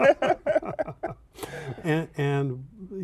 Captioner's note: laughter